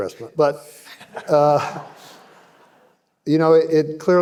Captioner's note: audience laughing